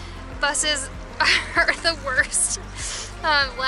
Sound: laughter

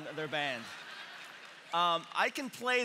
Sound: congregation clapping

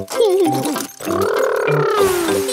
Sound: laughs

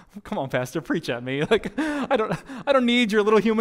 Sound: pastor: Laughter

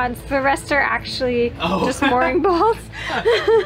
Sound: laughs

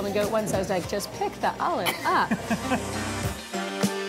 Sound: laughs

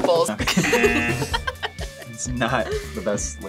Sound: laughs; buzzer

